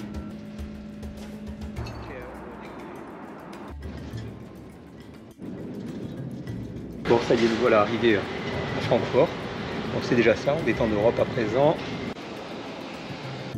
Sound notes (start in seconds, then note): none